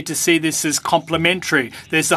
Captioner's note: speaking French